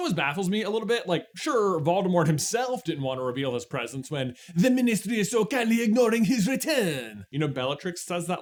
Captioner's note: French accent